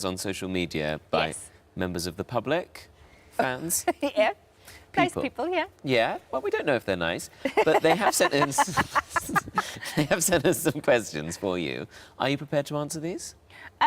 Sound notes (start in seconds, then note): 3.5 Sarah laughs; 7.4 Sarah and Tom laughing